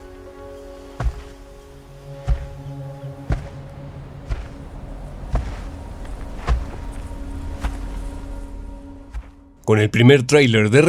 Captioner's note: sound of footsteps